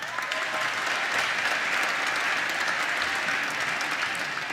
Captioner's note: applause